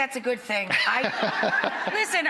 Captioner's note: laughter